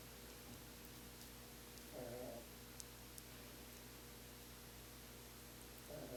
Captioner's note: faint dog snoring